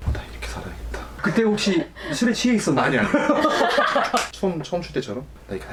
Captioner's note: hahahahahaha